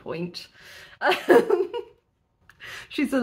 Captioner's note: laughing